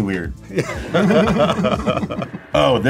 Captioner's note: both laugh